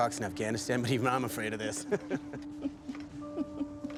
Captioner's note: chuckles; laughs